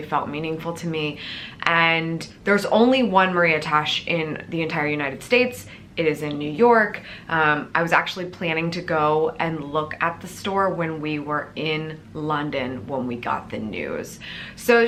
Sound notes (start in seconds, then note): none